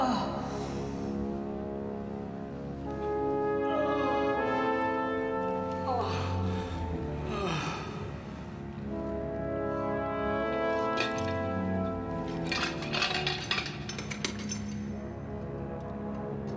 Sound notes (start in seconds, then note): 12.6 metal Clunking